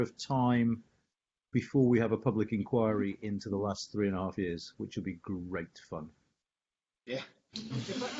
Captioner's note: laughter